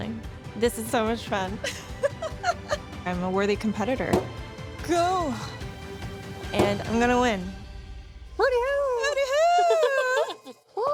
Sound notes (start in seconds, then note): 1.7 laughing; 6.2 oven door slamming; 9.4 contestants laughing